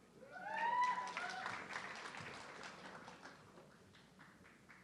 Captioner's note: audience cheering